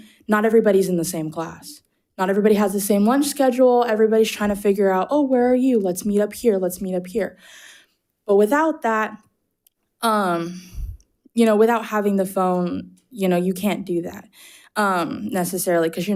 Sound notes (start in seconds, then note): none